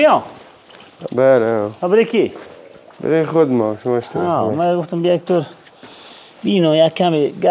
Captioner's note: speaking in local dialect